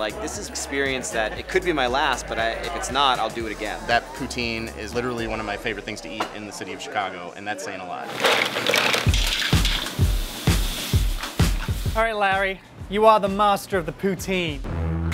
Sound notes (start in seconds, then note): 8.1 shells rattling; 9.8 upbeat music